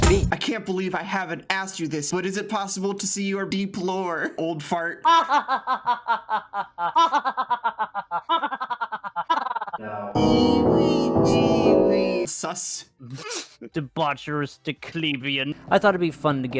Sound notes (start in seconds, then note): 5.0 Isabelle's laugh loops and speeds up; 12.8 laughs